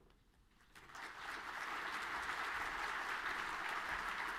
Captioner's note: audience clapping